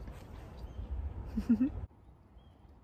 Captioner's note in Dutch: lach